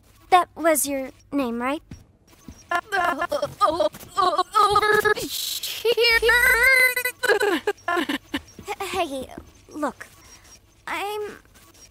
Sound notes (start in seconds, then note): 6.0 groans